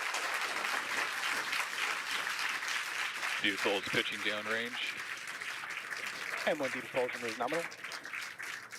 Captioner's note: cheers and applause